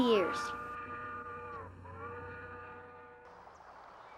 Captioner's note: train whistle howling